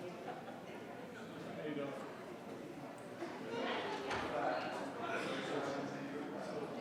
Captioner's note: attendees chattering continues